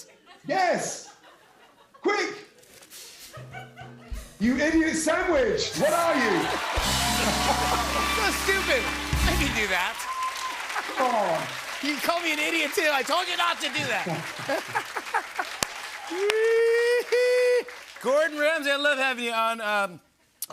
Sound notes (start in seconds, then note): 6.2 both laugh; 6.4 cheers and applause; 14.0 laughter